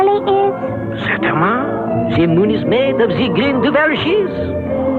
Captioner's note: french